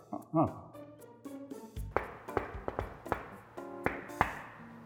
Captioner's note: door knocks